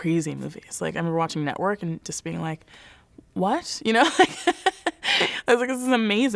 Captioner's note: laughs